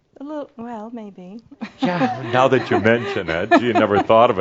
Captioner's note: she chuckles